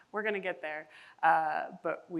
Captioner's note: none